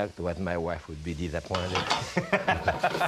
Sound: Ming laughs

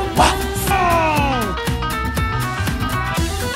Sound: Shrek groans; upbeat music continues

